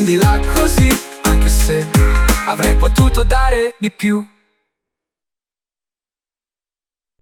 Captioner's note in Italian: mmm